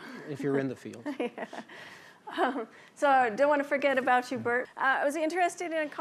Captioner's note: laughs